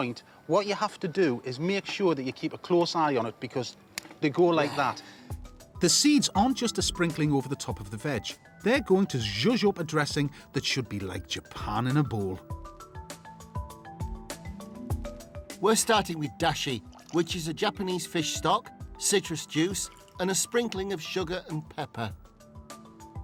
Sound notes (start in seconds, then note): 4.7 snaps